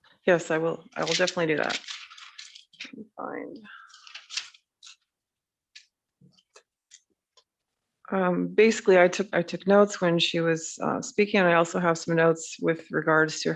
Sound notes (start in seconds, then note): 0.8 shuffling papers